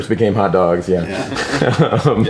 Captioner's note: laughs